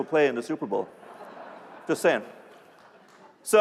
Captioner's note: laughter